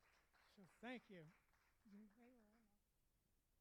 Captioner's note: applauding